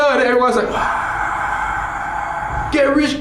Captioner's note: screaming